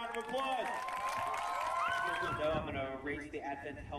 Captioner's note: people cheering and applauding